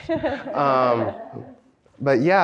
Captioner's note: laughs